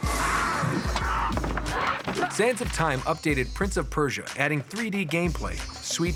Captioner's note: fighting sounds